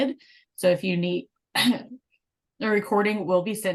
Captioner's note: coughing